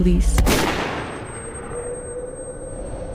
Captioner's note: gun firing; wind howling